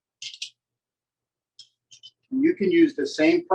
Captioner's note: silence